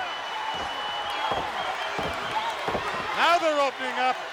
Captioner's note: heavy thudding